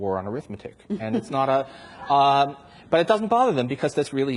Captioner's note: audience laughs